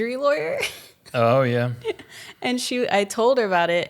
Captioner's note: laughs